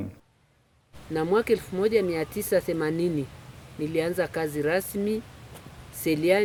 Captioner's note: speaking in foreign language